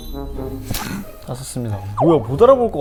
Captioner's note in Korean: 푸흡